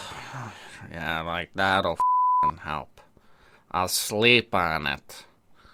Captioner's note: sighs; snores